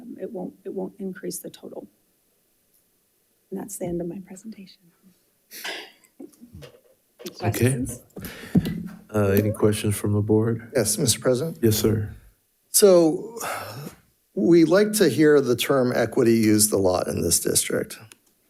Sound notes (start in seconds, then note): 6.8 laughs